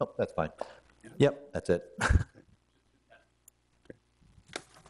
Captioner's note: laughs